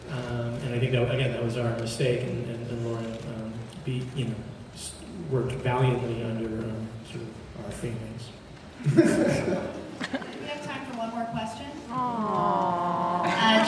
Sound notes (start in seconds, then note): 8.8 laughs